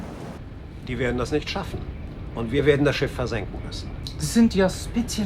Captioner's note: speaking foreign language